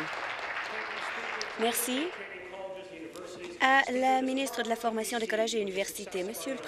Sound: applause

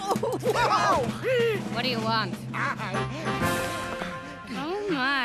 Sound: panting

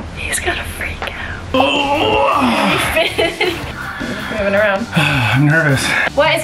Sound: whispering

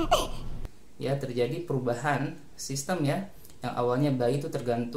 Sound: respiration

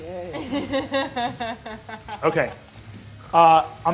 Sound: laughing

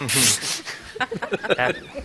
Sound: laughter

